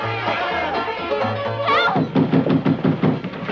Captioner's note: banging on door